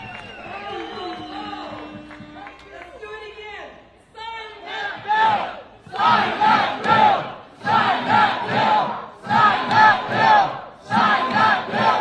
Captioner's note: cheers and applause